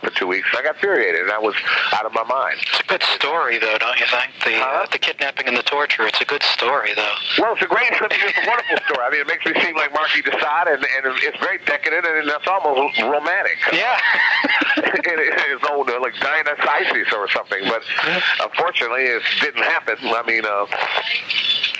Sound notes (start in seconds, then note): 13.7 both laugh